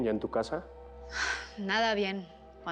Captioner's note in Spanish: Suspiros